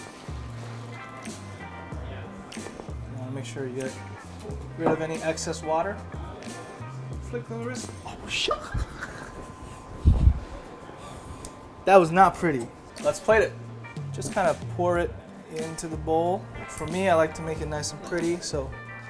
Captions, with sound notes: You wanna make sure you get rid of any excess water. Flip of the wrist. Oh shoot! (laughing) That was not pretty. Let's plate it. Just kind of pour it into the bowl. For me, I like to make it nice and pretty.